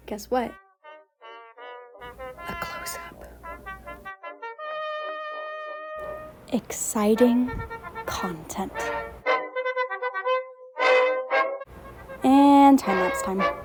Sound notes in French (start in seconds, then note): 1.4 chuchote; 8.7 musique de trompette